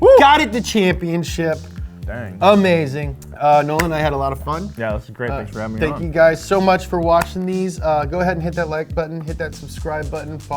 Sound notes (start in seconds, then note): none